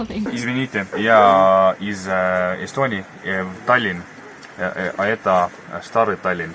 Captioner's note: speaks in Russian